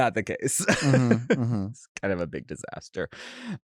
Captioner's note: chuckles